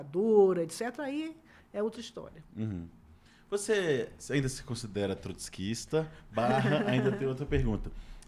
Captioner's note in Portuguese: risadas